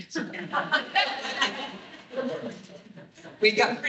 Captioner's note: laughter